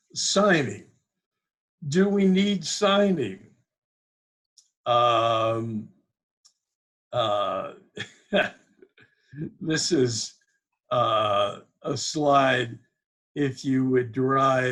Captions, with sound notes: Signing! Do we need signing? (laughs) This is a slide, if you would drive outbound